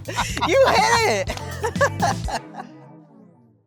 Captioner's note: laughs